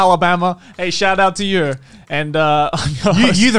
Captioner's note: laughs